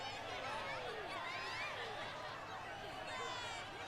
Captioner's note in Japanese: 大歓声